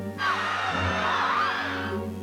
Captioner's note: screaming